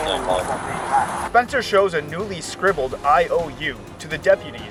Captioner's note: voiceover